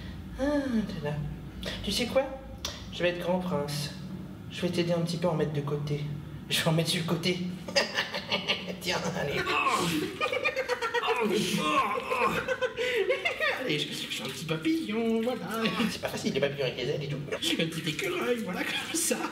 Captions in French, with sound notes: Aah, et t'es là. Tu sais quoi ? Je vais être grand prince. Je vais t'aider un p'tit peu à en mettre de côté. Je vais en mettre sur le côté. Ah ah ah ah! Tiens, allez ! Boah ... *rire aigu* *rire aigu* - Oh non ! Je fais un p'tit papillon, voilà ! C'est pas facile les papillons avec les ailes, et tout. Puis un petit écureuil voilà, comme ça ...